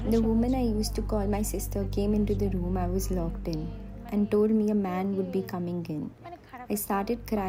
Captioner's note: speaking alternate language